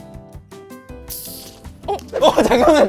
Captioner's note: pop sound